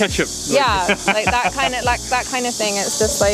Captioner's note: laughs